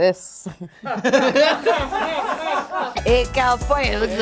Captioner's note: group laughing